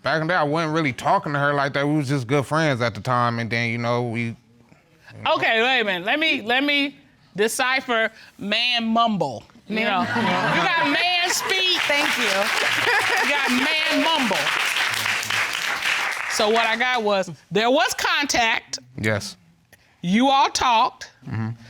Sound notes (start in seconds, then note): 12.5 laughs